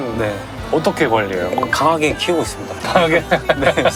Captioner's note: coldly